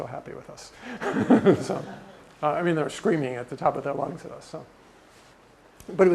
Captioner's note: laugh